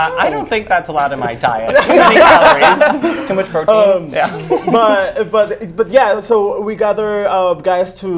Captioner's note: laughs; laughs